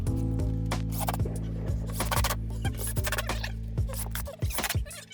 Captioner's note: drill whirring; tape fast forwarding